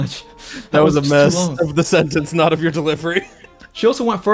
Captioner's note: laughs